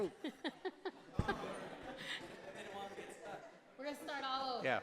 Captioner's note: laughter